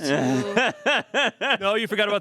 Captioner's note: laughs